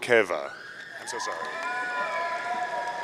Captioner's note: audience cheering